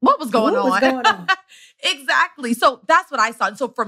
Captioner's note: laughs